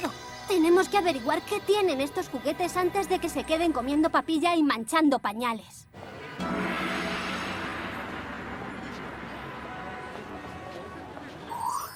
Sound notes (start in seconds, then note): 6.1 gong; 7.7 honking